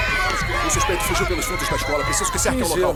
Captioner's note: grunting